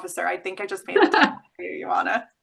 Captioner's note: laughs